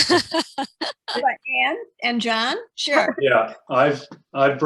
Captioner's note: laughing